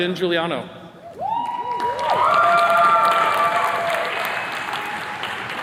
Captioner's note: attendees cheers and claps